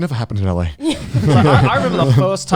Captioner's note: all laughing